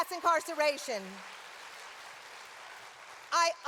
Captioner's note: applause